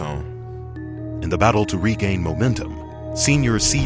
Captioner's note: voiceover